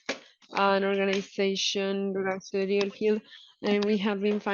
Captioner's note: speaking in foreign language